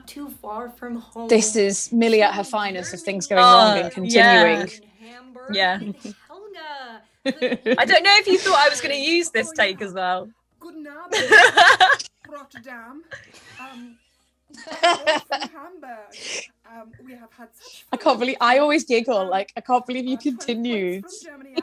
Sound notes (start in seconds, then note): 11.1 laughter; 11.4 she laughs